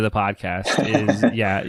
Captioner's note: laughs